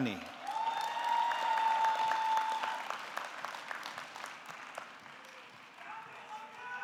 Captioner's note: audience clapping; audience cheering